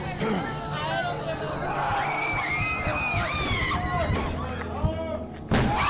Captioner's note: growls; roars; screams; screaming